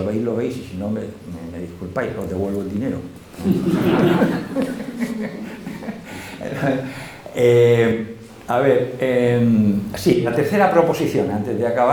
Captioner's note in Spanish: risas